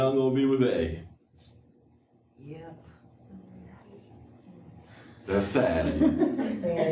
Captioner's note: laughter